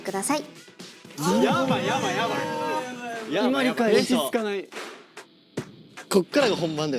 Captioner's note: hustle & bustle